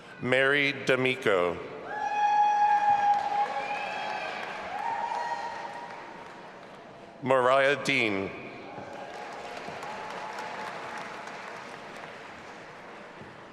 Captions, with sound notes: Mary D'Amico. (audience applauding and cheering) Moriah Dean. (audience applauding and cheering)